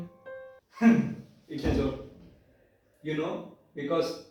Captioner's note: laughs